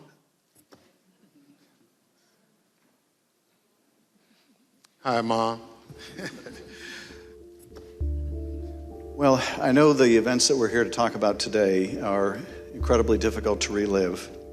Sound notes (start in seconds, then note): 5.9 chuckles